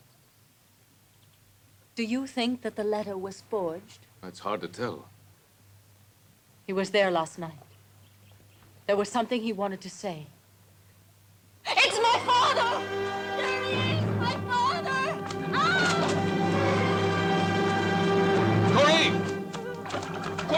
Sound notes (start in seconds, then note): 15.6 screams; 16.6 suspenseful music